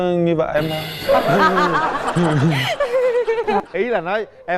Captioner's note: laughing